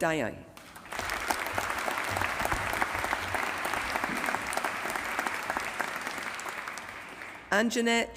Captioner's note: applause